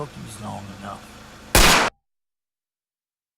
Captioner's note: gunshot